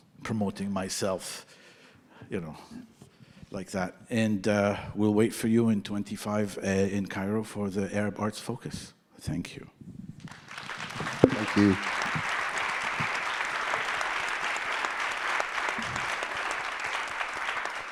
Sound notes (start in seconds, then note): 10.4 audience applauding; 12.8 audience applauding continues